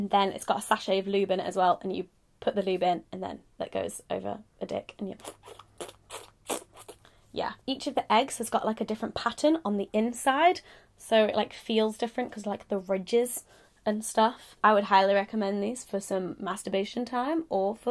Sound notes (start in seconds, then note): 5.1 imitates squelching